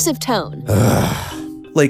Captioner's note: Birchum sighs